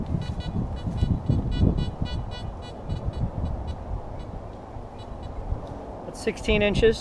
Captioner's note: detector beeps